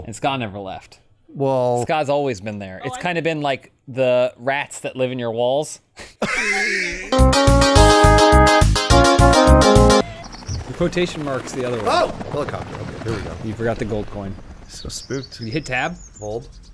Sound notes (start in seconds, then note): 6.0 wheezing